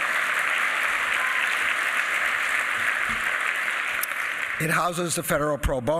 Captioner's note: applause